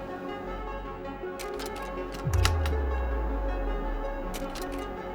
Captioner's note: slides clicking